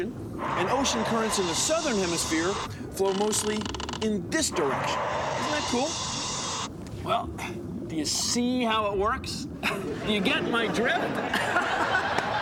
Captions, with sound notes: AND OCEAN CURRENTS IN THE SOUTHERN HEMISPHERE FLOW MOSTLY IN THIS DIRECTION. ISN'T THAT COOL? WELL, DO YOU "SEA" HOW IT WORKS? [ LAUGHS ] DO YOU GET MY DRIFT? [ LAUGHS ]